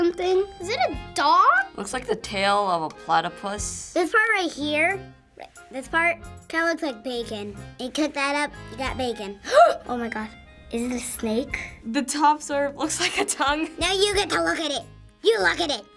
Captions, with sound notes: Is it a dog? It looks like a tail of a platypus. This part right here...this part... kinda looks like bacon. You cut that up, you got bacon. (gasping) Oh my god. Is it a snake? The top sort of looks like a tongue. Now you get to look at it! You look at it!